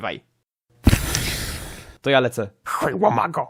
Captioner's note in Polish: dźwięki wody